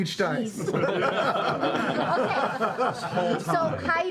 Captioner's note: laughter